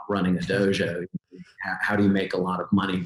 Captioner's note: chuckling